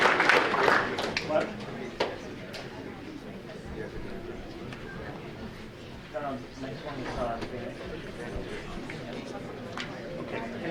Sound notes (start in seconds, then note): 4.2 light chattering